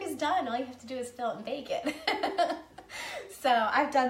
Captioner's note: laughing